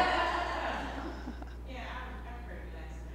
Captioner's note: laughter